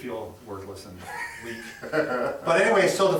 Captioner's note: chuckles